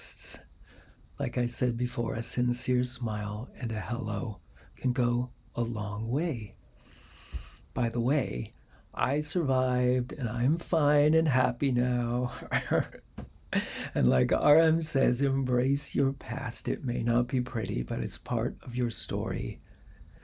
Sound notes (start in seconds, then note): 12.3 laughter